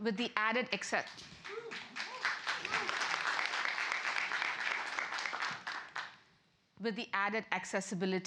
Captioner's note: applause